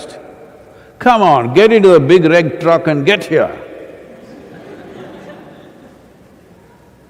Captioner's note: laughter